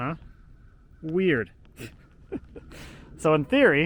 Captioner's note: laughs